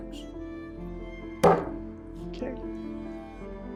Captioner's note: hands hitting table